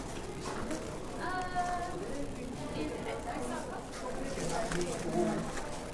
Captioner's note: visitors chattering indistinctly